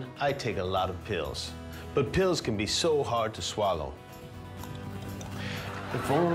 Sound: laughter

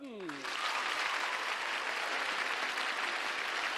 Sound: cheers and applause

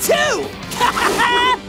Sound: laughing

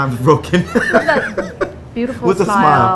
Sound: laughing

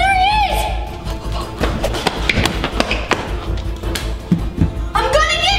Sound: loud footsteps

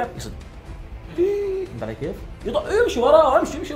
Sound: gasp

